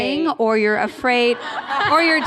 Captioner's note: laughter